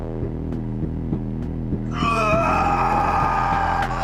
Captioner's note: screaming